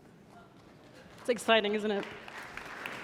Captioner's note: audience applauding